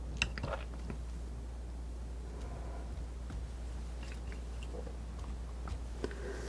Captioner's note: tapping